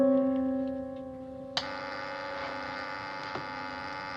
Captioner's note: buzzing